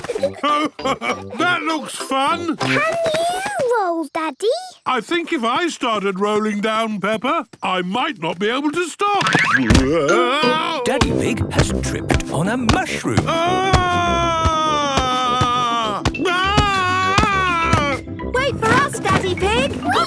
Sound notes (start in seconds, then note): 13.2 shouting